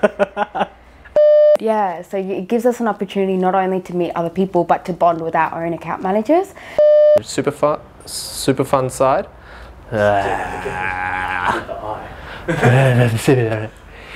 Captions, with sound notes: (chuckling) (beeping noise) - Yeah, so it gives us an opportunity, not only to meet other people, but to bond with our own Account Managers. (beeping noise) - Super fu- super fun side. (making noises with mouth)